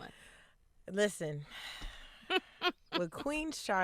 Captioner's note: chuckles